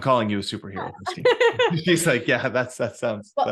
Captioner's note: laughing